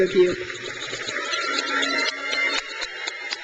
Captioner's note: crowd cheers